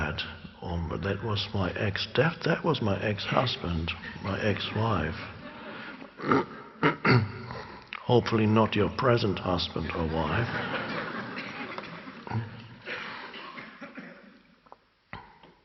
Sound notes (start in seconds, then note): 9.6 audience laugh